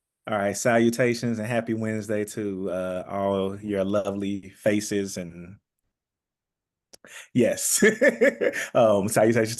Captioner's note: laughter